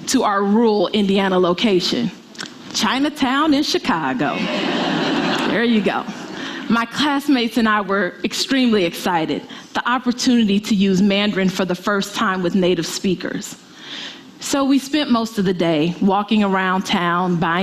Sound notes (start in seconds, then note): 4.3 audience laughing